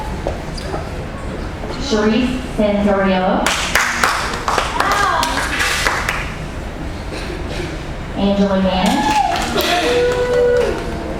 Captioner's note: applause